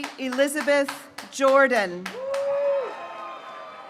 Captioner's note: graduates cheering